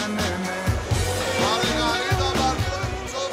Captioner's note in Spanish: vocea en griego